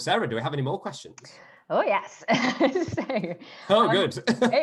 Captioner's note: laughter